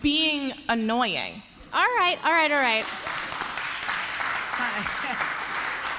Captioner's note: applause